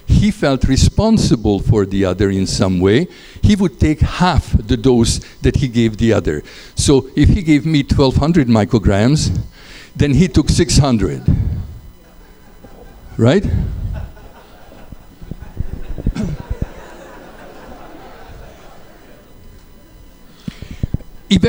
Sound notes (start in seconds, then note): 13.8 laughter